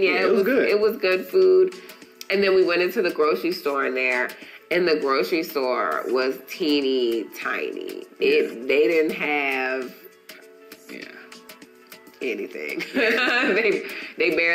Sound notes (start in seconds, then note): 12.9 laughing